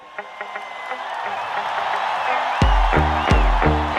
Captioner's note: cheers; upbeat music